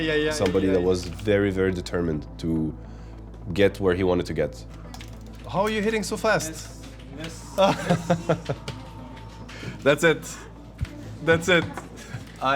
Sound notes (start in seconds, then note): 7.6 laughter